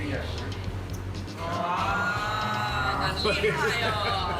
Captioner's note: speaks hakka